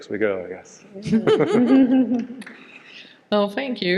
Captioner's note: participants laughing in unison